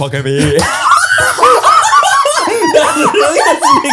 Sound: everyone laughs

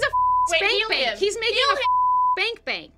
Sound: beep

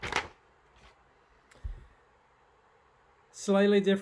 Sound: page rustling

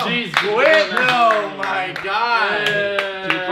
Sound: clapping

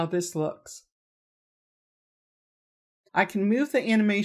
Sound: silence

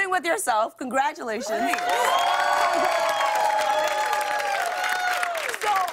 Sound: cheers and applause

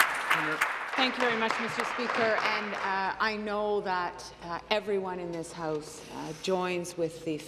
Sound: applause

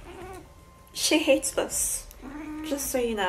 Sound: angry mrow

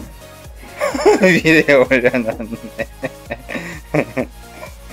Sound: laugh

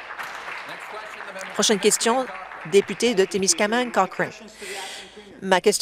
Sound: applause

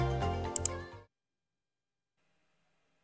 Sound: mouse Click

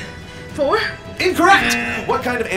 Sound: buzzer blares

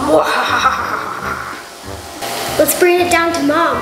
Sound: maniacal laugh

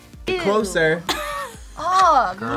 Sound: React laughs

